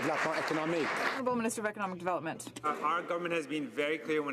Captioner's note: some Applause